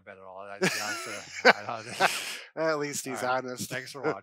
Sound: laughing

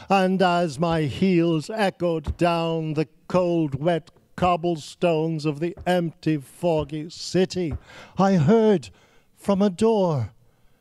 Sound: speaking Yiddish

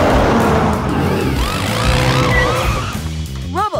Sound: sirens blaring

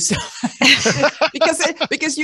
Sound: everyone laughs

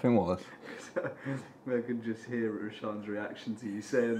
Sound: laughs

